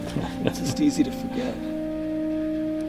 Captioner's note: laughs